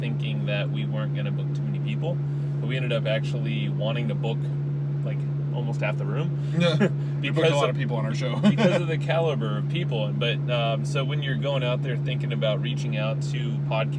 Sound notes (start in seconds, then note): 6.4 laughs; 8.3 laughs